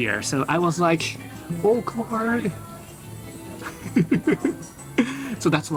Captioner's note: chuckles